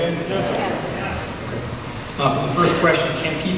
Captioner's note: crowd agrees